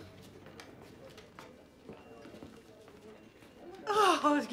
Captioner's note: indistinct conversation